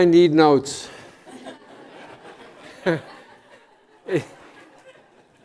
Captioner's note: laughter